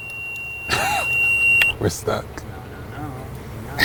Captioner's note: laughs